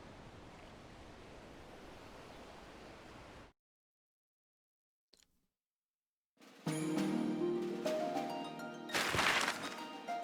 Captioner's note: waves crashing